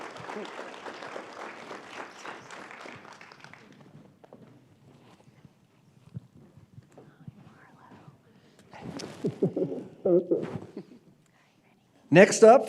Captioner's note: applause